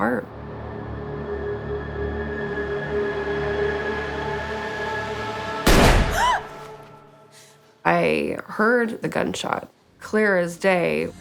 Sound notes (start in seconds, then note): 0.2 suspenseful music; 5.6 gun fires; 6.1 Whitney gasps